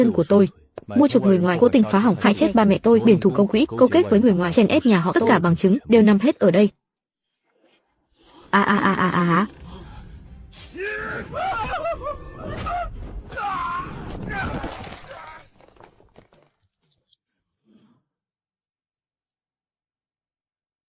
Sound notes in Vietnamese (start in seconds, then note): 10.6 la hét; 13.2 rên rỉ